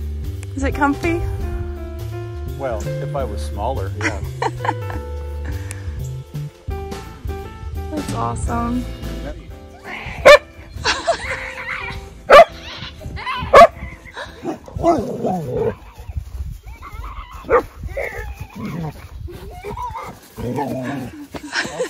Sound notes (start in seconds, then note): 6.5 laughing; 10.2 dog barking as the kids play